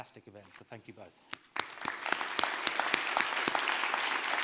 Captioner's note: applause